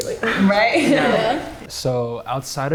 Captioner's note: everyone laughing